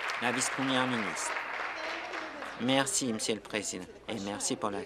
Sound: applause

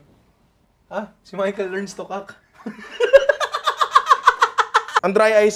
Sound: laughs

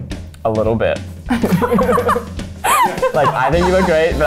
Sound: laughing

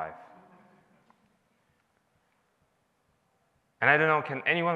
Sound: audience laughs

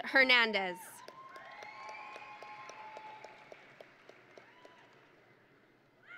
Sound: audience and graduates cheering

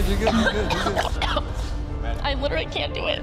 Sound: gagging

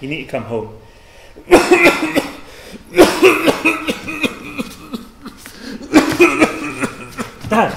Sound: has a coughing fit

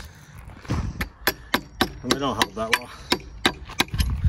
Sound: hummer clacking

